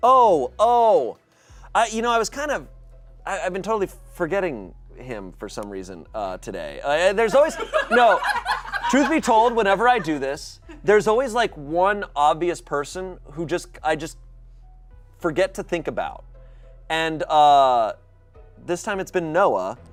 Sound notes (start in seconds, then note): 7.4 audience laughing